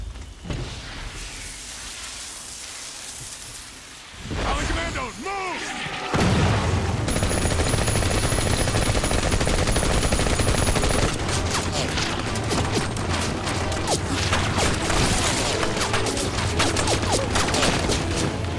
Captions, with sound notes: Armed commandos, move! [EXPLOSIONS] [GUNFIRE] [ROUSING MUSIC]